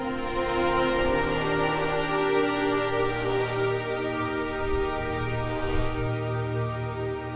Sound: sound of bee flying

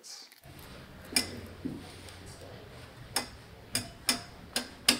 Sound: metal rattling

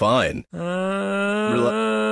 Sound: groans

